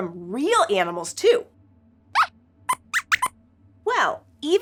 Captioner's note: squeaks squeaks